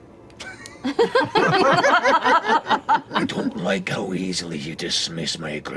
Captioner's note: laughter